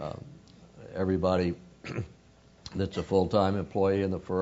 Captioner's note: cough